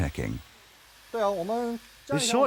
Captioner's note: speaking in foreign language